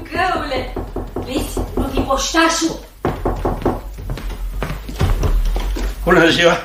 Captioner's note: knocking at the door